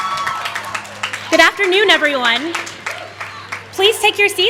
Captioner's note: applause